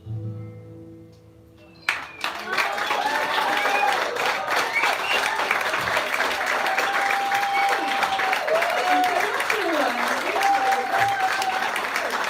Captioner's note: applause